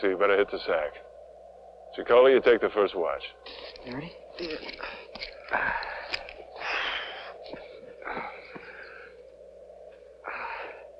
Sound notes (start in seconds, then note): 5.4 heavy breathing